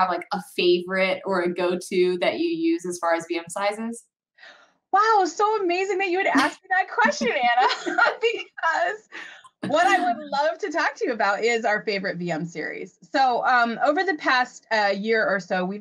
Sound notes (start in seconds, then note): 9.0 laughing